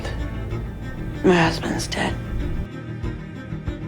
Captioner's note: voiceover